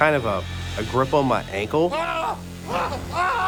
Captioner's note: screaming continues